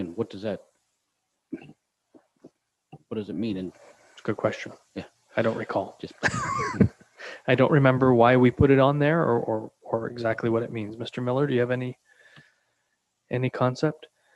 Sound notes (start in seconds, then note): 5.4 laughs